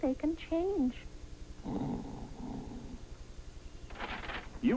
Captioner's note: snoring